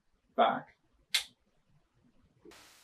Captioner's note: click